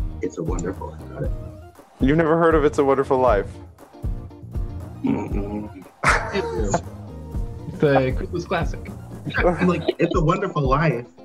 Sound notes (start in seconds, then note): 5.0 laughs